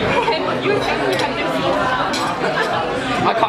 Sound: laughs

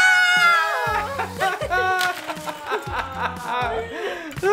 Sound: laughs

